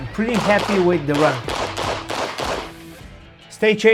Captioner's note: gunshots banging